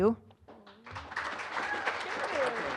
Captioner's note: applause